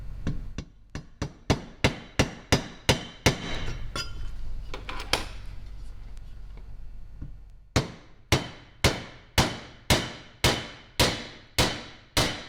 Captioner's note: hammering